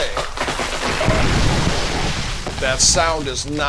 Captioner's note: creeeeeeak... SMASH!